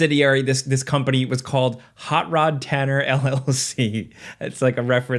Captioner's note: chuckling